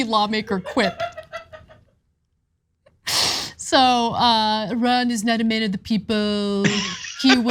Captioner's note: laugh